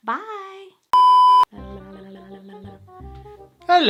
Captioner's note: beeps